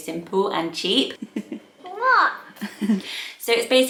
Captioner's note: giggling